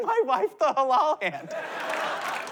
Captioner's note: laughter